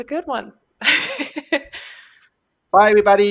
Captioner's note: laughs